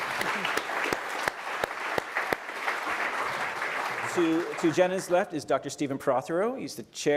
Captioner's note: applause